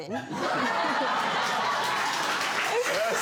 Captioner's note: audience laughs and claps